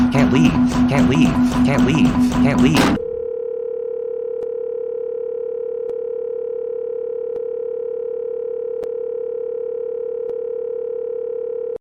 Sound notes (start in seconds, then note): 4.9 phone ringing